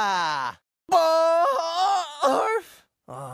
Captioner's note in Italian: urla